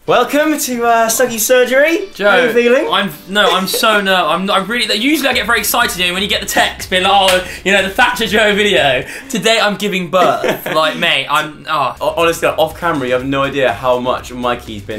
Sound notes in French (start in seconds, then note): 10.1 rire